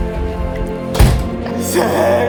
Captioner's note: clunk!